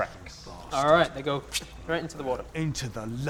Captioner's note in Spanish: pfft